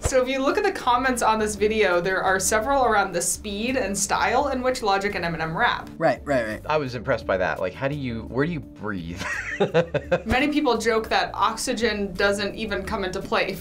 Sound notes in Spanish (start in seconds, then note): 9.1 risas